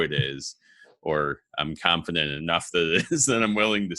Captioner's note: laughing